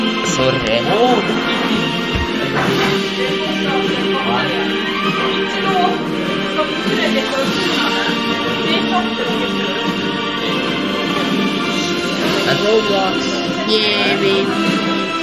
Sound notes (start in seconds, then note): 2.3 angry teacher noises